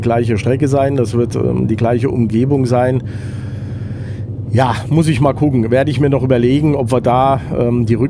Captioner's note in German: seufzt